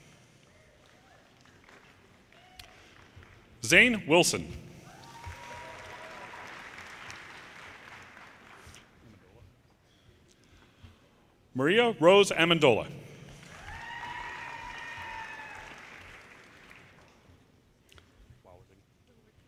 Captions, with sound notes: Zane Wilson, (audience applauds) Maria Rose Amendola, (audience cheers and applause)